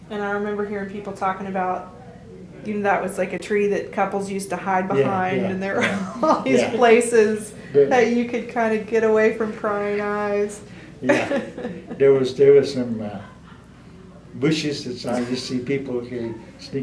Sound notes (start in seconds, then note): 11.0 laughter